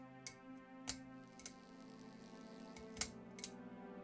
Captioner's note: light fixture clicking; electricity buzzing; light fixture clicking